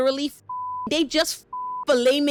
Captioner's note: beep